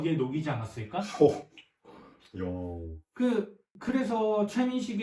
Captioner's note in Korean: 감탄